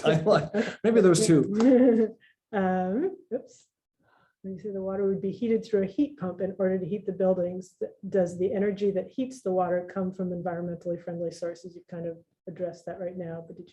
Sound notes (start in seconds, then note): 0.0 laughs; 3.0 laughs